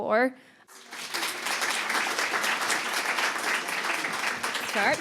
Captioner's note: applause